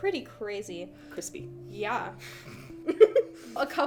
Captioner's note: laughs